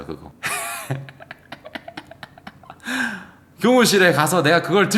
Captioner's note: laughs